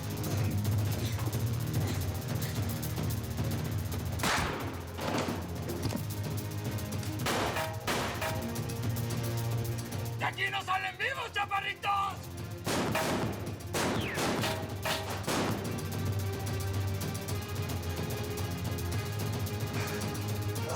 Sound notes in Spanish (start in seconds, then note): 12.6 continúa fuego cruzado